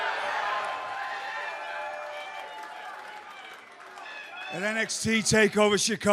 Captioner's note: cheers and applause